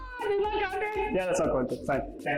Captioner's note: continues screaming